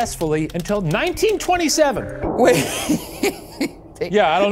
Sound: laughs

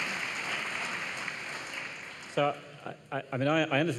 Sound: applause

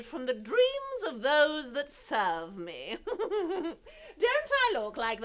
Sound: chuckling

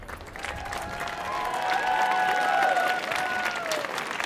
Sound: audience cheering

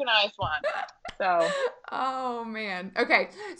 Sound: laughing

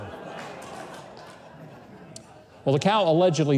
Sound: laughs

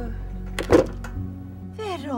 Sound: head slamming onto desk

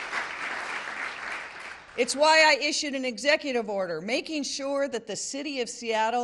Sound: applause

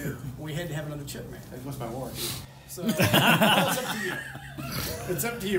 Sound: laughter

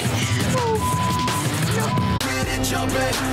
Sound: beep

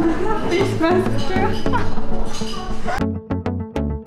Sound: laugh

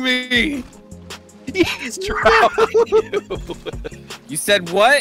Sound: laughter

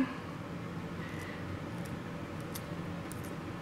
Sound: tissue-cutting sounds

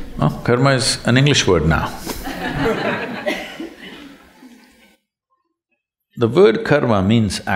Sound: laughter

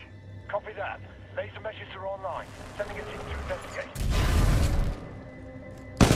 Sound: radio

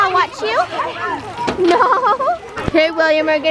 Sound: laughs

